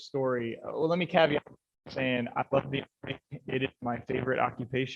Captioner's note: mic cuts out